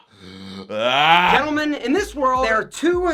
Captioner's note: shouts